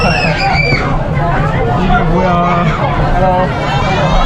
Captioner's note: even the kids screaming